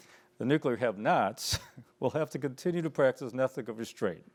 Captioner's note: chuckles